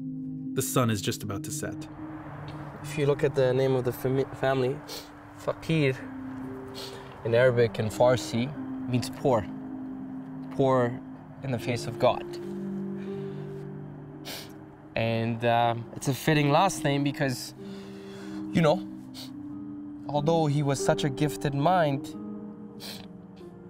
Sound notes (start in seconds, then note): 14.2 sniffling